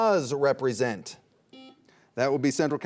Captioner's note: buzzer buzzing